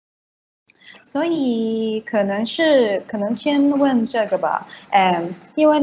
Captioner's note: Mandarin